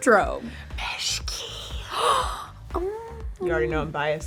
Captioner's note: gasping